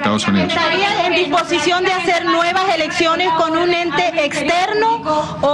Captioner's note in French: plusieurs voix